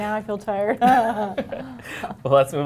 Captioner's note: laughter